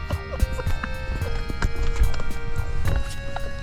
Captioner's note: both laughing